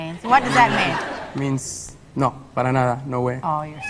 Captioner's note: speaks in Spanish